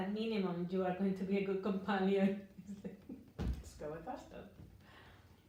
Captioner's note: chuckles